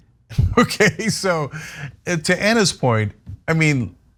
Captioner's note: laugh